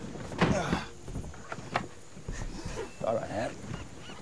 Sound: Hopkins groaning

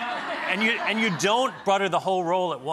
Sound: laughter

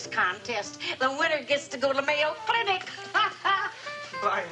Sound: chuckles

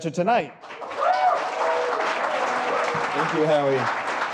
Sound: cheers and applause

